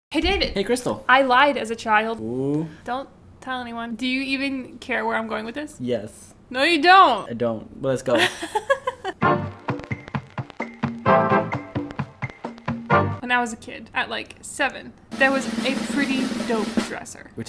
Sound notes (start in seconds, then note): 8.2 laughs; 9.2 suspenseful music